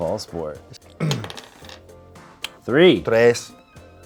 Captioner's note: clears throat